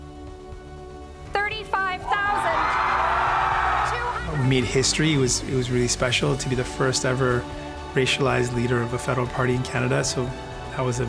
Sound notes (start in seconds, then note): 4.0 crowd cheering